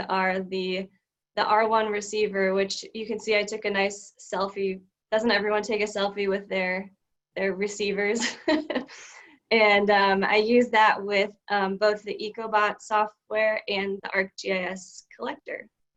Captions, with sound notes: are the R1 receiver which you can see I took a nice selfie. Doesn't everyone take a selfie with their receivers? (chuckles) And I used that with both the Ecobot software and the RGIS Collector.